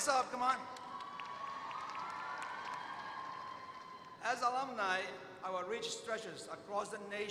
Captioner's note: applause